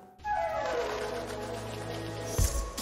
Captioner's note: flap flap